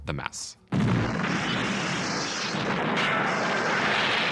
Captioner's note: loud explosion